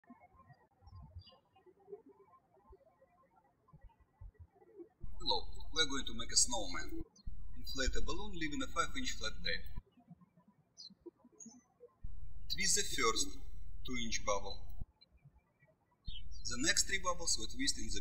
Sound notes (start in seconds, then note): 0.1 birds chirping; 12.0 birds chirping